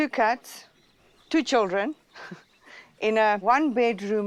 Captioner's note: laughs